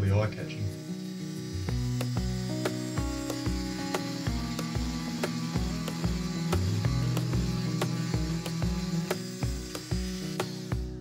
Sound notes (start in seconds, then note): 2.3 saw vibrating